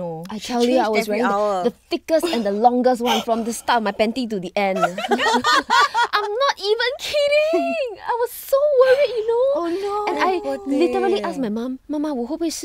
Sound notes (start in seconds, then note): 4.7 girls laughing